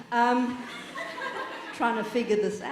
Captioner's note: audience laughing